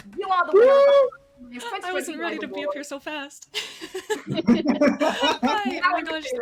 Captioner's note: all laugh